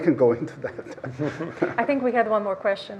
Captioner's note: laughs